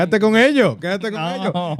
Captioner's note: speaking In Foreign Language